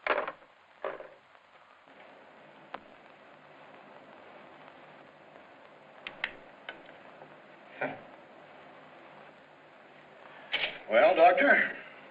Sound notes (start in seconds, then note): 7.8 chuckles